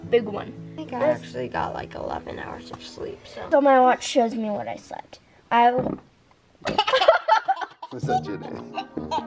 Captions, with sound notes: - A big one. - I think I actually got like 11 hours of sleep, so. - So my watch shows me what I slept. I- (Fart) (Laughter)